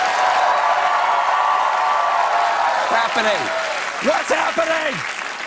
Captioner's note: cheers and applause